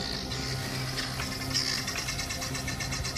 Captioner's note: squawking